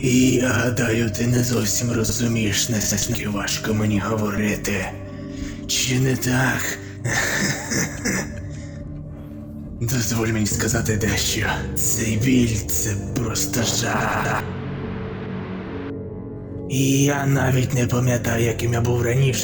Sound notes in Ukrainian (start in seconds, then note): 7.1 Сміх